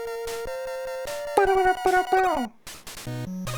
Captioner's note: hums along to BGM